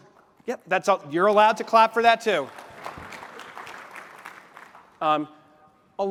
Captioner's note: applause